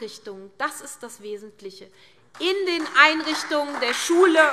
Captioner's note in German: Beifall SPD und Freie Demokraten